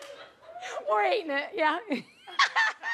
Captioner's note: laughs; laughs